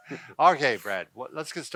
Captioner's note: both laughing